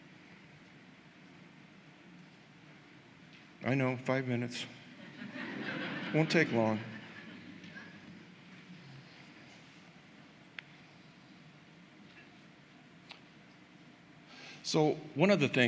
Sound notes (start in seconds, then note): 5.0 laughter